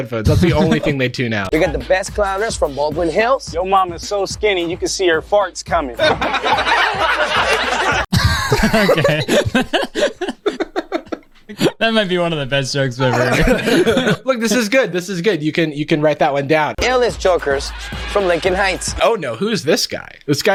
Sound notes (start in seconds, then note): 6.0 group laughs; 8.6 pair laughs